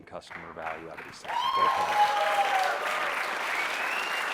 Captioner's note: applause